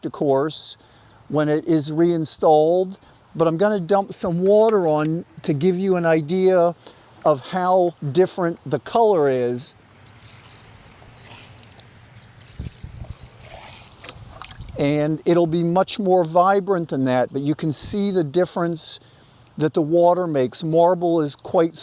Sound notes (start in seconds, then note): 9.8 water sloshing